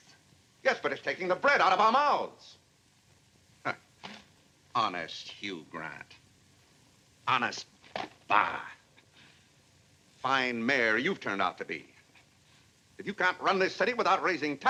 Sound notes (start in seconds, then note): 3.3 scoffs